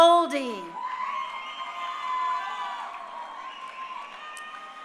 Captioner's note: crowd cheering